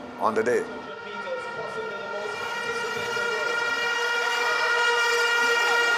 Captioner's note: horn blowing